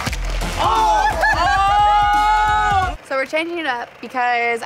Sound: electronic music; yelling and laughing

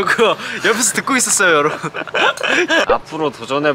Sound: hahaha

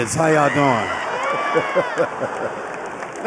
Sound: laughter

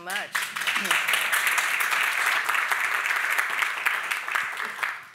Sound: audience applauding

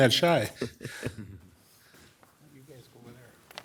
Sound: laughing

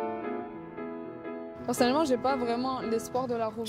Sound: speaks French

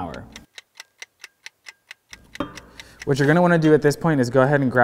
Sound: timer ticks

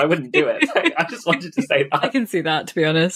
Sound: laughing; laughs

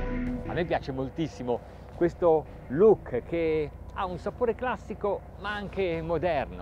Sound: speaking in foreign language

